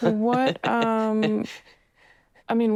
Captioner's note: person laughing